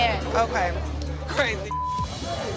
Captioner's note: beep